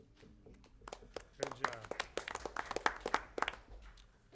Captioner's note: applause